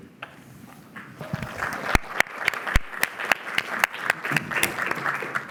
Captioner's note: applause